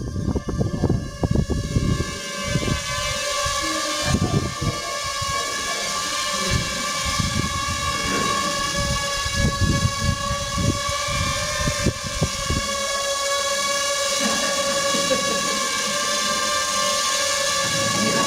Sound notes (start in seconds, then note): 0.2 inaudible Drone Noise; 5.9 drone Noise; 15.8 laughing; 17.8 drone Noise